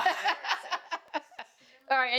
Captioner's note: laughter